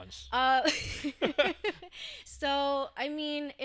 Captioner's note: laughing